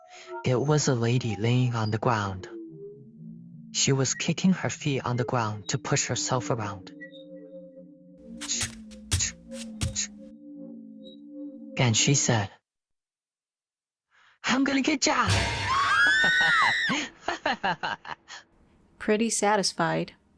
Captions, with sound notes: It was a lady laying on the ground. She was kicking her feet on the ground to push herself around. "Chk. Chk. Chk" and she said, "I'M GONNA GET YA!" [screaming] [laughter] Pretty satisfied,